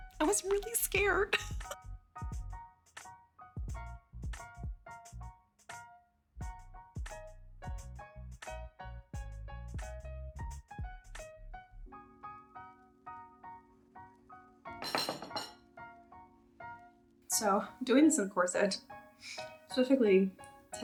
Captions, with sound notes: I was really scared. (gentle rhythmic music) (dishes clatter onto table) - So doing this, in corset, specifically,